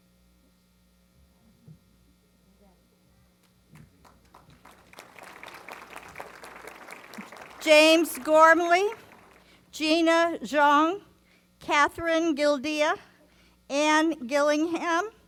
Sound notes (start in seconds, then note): 3.7 applause